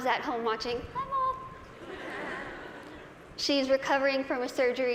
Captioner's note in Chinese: 大笑